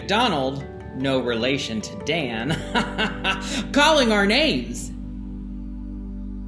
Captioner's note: laughs